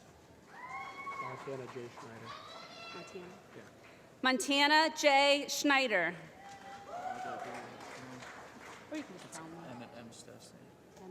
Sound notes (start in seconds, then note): 0.9 applause; 6.4 applause